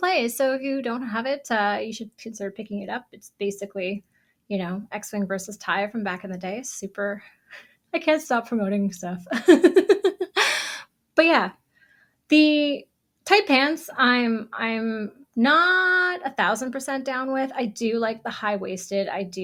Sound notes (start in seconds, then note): 9.4 laughs